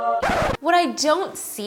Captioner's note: record scratches